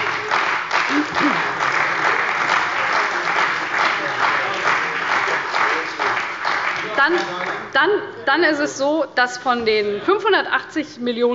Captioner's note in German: Beifall bei der CDU und dem BÜNDNIS 90/DIE GRÜNEN